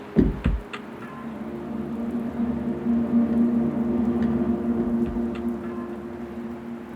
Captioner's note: mysterious music continues; rain continues pattering